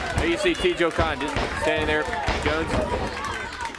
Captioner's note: crowd chatter